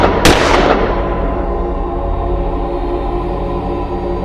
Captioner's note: gunshots